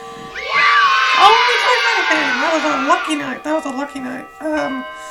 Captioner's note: bells Chiming and children yelling yay!